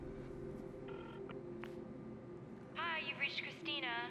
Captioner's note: clicks